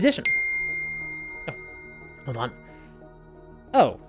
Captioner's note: phone dings